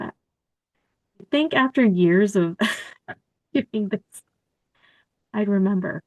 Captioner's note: laughter